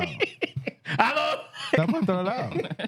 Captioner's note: speaking Spanish